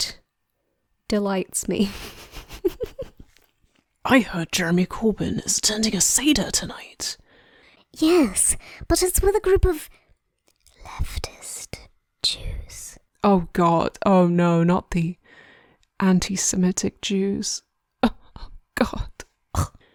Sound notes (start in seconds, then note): 1.8 laughing; 10.7 whispering